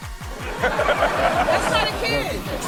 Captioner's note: all laugh